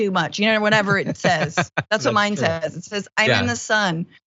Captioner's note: laugh